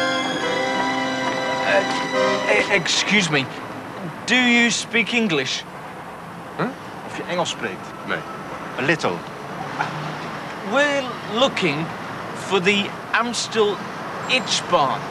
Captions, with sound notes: Er, excuse me. Do you speak English? Huh? [speaks Dutch] Nay. A little. We're looking for the Amstel Ijsbaan.